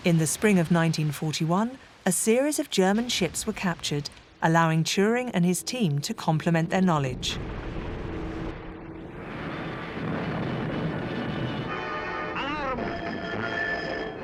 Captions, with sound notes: In the spring of 1941, a series of German ships were captured, allowing Turing and his team to complement their knowledge. (explosions booming) (tense music)